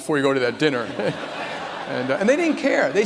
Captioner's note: laughter